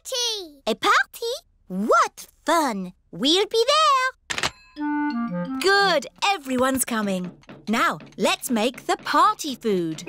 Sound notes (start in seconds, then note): none